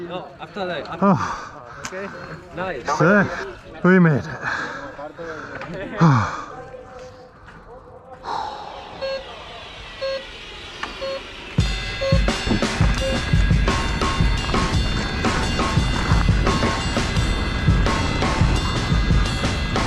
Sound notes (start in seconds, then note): 0.2 group speaking foreign language; 6.0 sighing; 8.2 exhaling; 9.7 timer counting down